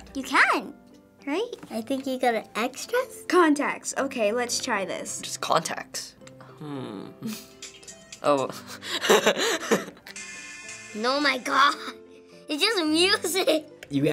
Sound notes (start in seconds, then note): 8.2 laughs